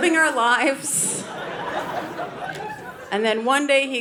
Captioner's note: audience laughing